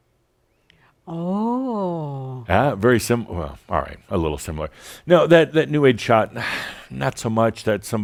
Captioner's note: sighs